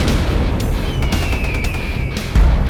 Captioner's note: gunshots; heavy metal music; eagle cries